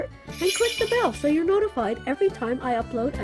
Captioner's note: bell rings